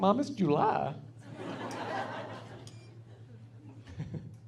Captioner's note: laughing